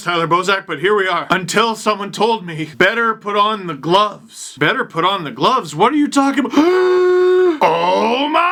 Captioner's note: inhale